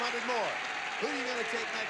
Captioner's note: audience applauding